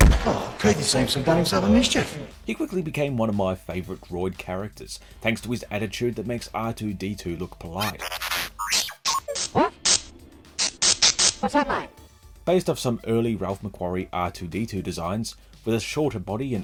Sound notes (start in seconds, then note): 10.5 angry beeps, zaps